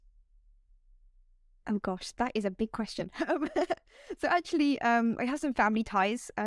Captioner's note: laughter